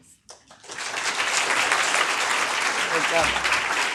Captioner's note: audience applauding